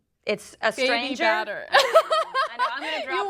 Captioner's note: laughter